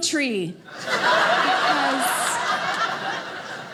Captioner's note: audience laughing